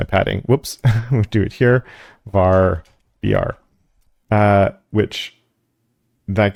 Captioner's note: laugh